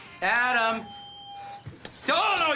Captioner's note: staticky feedback